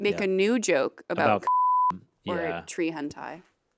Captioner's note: beep